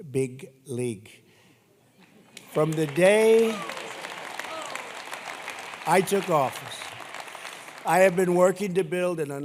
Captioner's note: applause